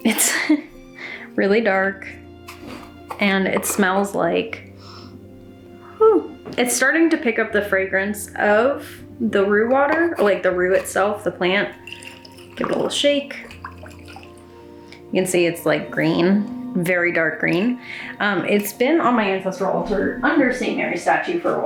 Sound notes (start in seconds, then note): 0.3 laughs; 5.2 sniffs; 12.2 water sloshes around